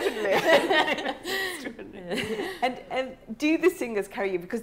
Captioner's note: laughing